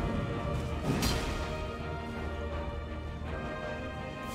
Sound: explosion; sword clanging

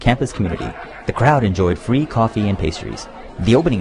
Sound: laughter

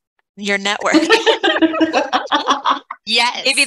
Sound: laughs

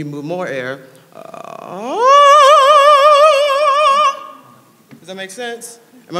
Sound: low growl rising to high pitch

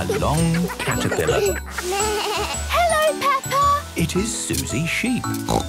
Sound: bleating; snorting

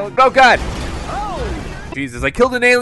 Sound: crash

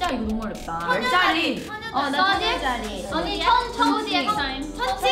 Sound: speaks in Korean; everyone speaking Korean

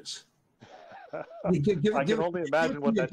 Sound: laughs

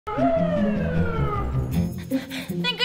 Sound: siren

